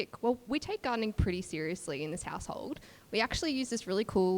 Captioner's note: none